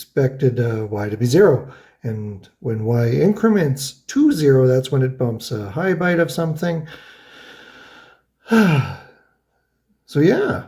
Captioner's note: sighs